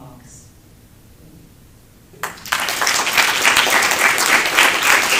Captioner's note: applause